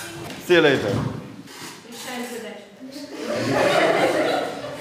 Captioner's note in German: Lehrerin sagt etwas, die Kinder lachen